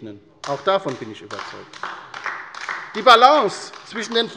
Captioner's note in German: Beifall bei der LINKEN